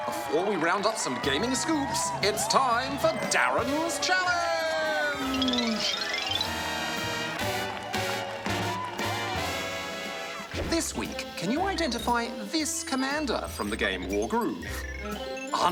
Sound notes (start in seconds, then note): 6.0 big band game show music; 6.0 cheering, applause